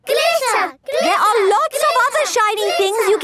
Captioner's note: chanting